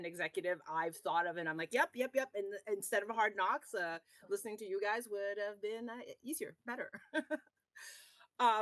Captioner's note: laughs